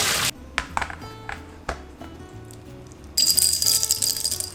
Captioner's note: water rushing; lid clattering; seeds rattling